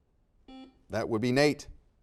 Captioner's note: buzzer dings